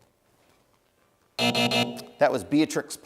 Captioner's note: buzzer